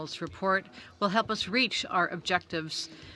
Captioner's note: speaking French